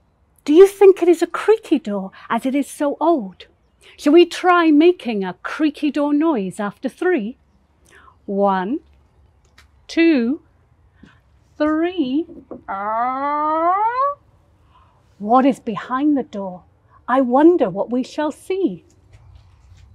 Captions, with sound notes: Do you think it is a creaky door, as it is so old? Shall we try making a creaky door noise after three? One, two, three. (creaking door imitation) What is behind the door? I wonder what we shall see.